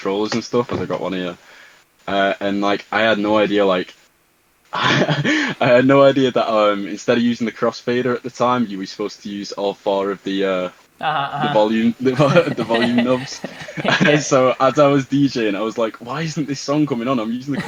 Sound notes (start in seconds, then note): 4.8 laughing